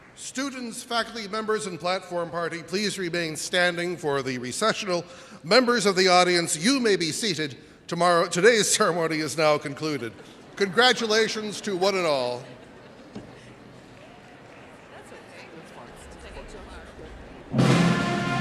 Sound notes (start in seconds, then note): 9.4 audience laughs; 13.1 audience laughing and chattering